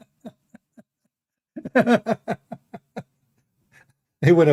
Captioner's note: Ketawa